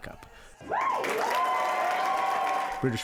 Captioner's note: cheering and applause